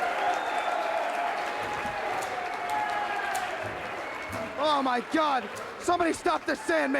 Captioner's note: crowd cheering